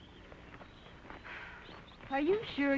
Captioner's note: birds chirping; Nora sighs